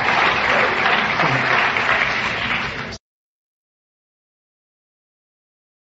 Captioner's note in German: Beifall